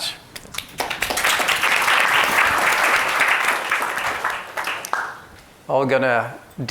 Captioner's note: audience clapping